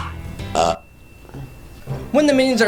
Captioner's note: burp